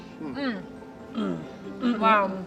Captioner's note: everyone moaning